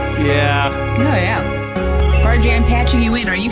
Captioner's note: communicator chimes